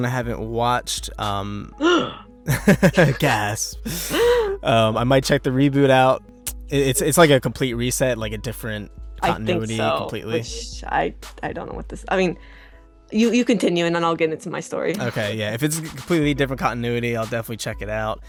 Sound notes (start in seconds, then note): 3.8 gasps